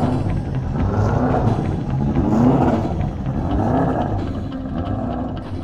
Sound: car engine roars

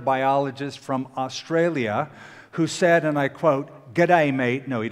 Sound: australian accent

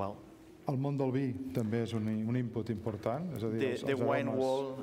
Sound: speaking catalan

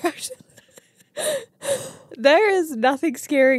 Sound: laugh

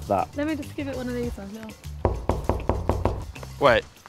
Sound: hollow knocking

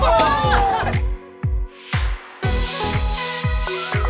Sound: cheering; upbeat music

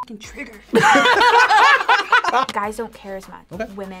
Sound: both laugh

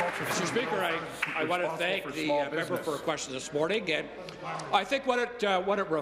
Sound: applause

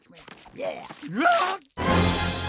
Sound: screams, grunts

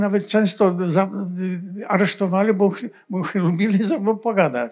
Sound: foreign language

